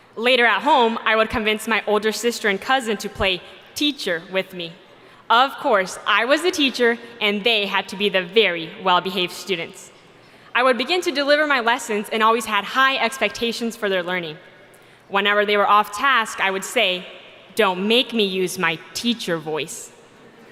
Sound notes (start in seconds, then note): none